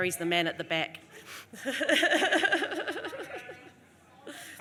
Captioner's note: laughs